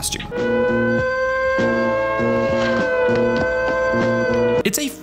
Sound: siren blaring

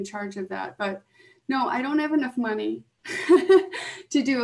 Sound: laughs

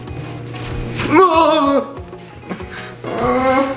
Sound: wails

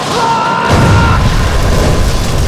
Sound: explosion

